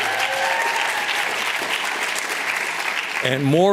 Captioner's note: applause